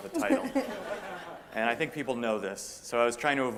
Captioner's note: laughter